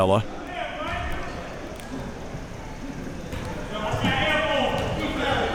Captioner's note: audience chattering